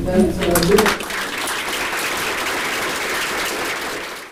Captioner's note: audience claps